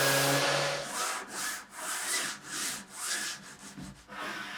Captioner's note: machine scraping